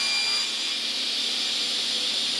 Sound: machine noise

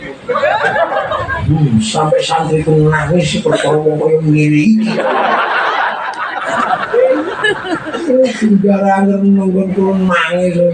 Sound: laughs

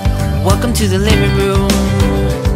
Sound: none

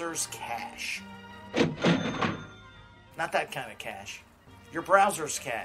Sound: cash register SFX

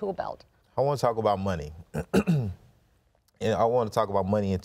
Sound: clears throat

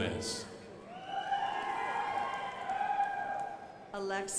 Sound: crowd applauding

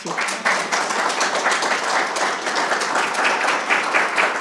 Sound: audience clapping

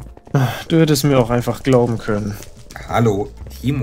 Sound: sigh

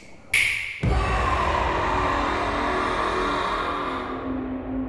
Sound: scream

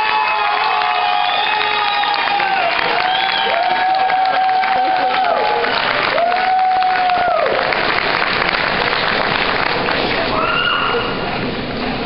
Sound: lots of cheering

